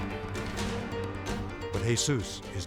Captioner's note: crowd cheers and applauds